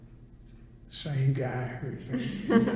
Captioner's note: all laugh